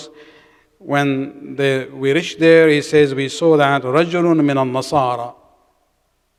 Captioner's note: arabic